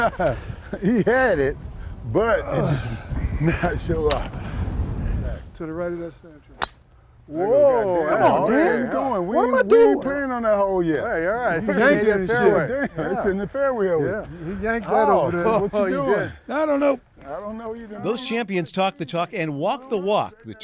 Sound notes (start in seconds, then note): 0.0 laughs; 6.6 sound of club hitting the ball